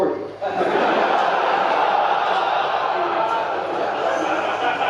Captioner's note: audience laughing